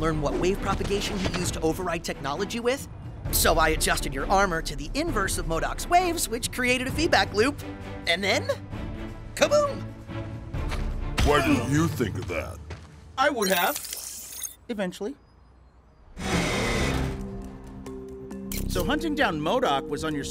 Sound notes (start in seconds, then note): none